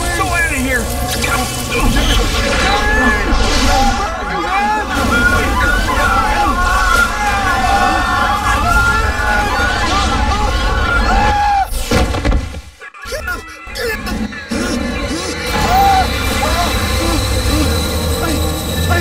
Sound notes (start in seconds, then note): 3.7 screaming; 13.0 labored breathing